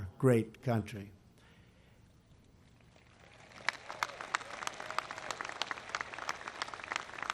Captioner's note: applause